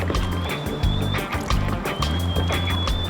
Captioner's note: whistling